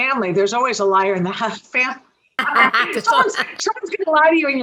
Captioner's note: laughs